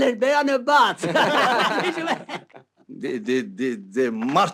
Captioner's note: haha